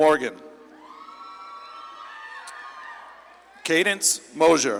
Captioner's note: audience claps and cheers